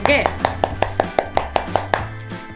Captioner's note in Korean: 두드리는 소리